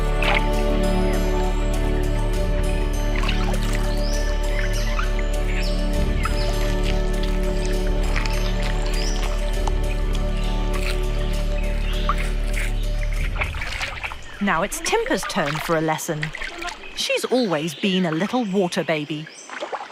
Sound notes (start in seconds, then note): 0.0 inspirational music; 0.3 water rustling; 6.7 leaves rustling; 19.7 water rustling